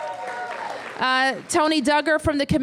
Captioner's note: applause